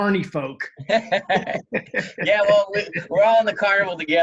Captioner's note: laughs